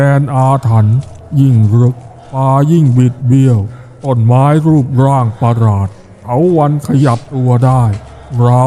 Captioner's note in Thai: เสียงสูดหายใจ